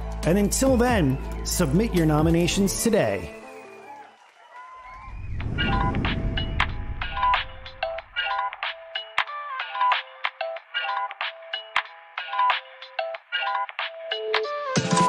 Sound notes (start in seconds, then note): 4.8 people cheering; 5.7 upbeat music